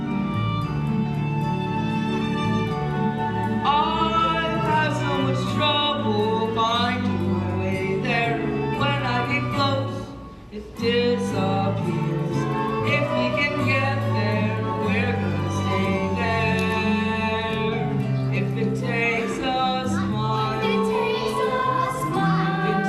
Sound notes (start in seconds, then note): 10.7 circus animals; 11.6 quietly